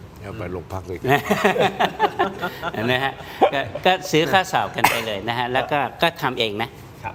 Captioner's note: laughter